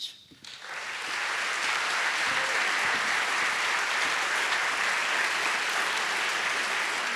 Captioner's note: audience applauding; audience cheering